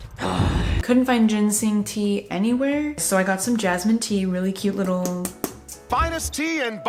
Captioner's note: Zuko groans; taps jar